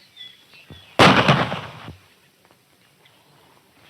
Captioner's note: gun bangs